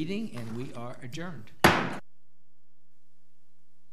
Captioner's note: gavel knocks